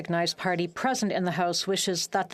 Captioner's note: speaking French